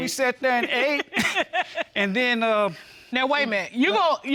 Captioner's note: giggling